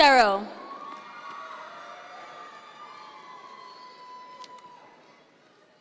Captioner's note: audience members cheer